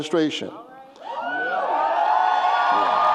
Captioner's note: cheers